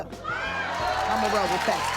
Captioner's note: cheering